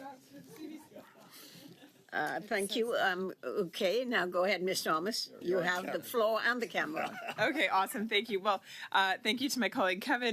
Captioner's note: laughter